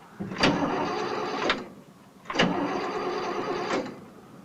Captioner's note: engine sputtering